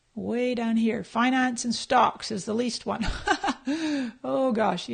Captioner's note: laughs